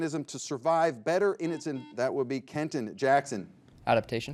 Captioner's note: buzzer beeps